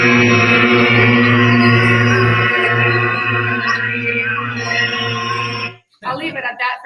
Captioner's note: recording plays